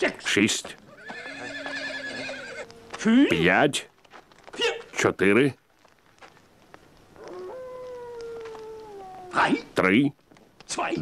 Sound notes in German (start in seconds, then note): 0.8 Pferd wiehert